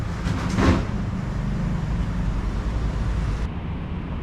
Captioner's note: door opening sound heard